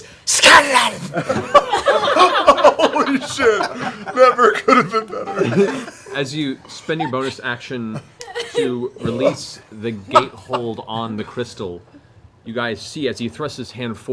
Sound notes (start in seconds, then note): 1.0 laughter; 3.4 laughing